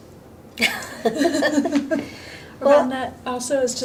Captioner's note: laughing